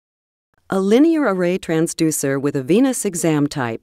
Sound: voiceover

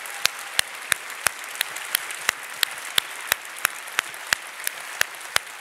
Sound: audience applauding

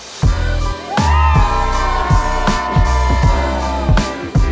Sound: all cheers

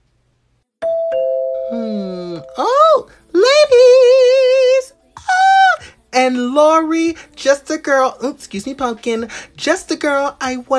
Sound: entrance Bell

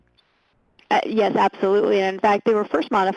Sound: voiceover

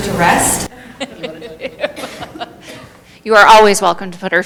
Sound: laughing

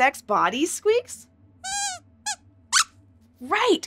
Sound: squeaks squeaks

